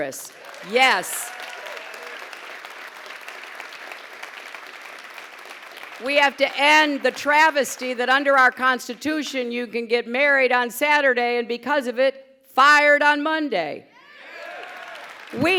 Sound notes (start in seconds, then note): 0.2 applause, pause